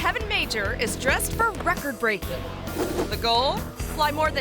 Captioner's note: assistant faintly speaks